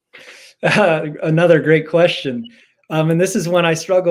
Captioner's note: laugh